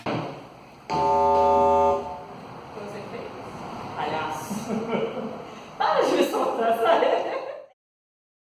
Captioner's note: buzzer